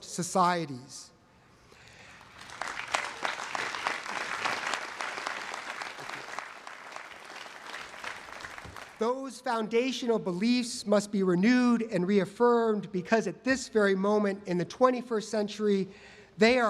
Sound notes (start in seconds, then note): 4.7 applause